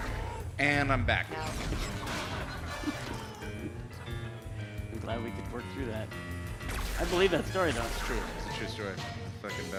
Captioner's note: laughter